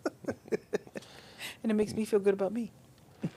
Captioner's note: laughing